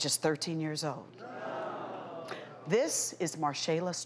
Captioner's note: audience groaning